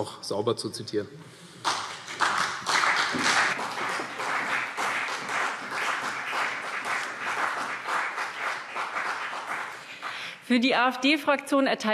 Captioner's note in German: Beifall CDU und BÜNDNIS 90/DIE GRÜNEN